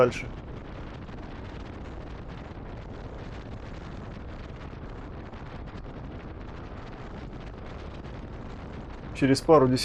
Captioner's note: noise of the road - motorcycle and wind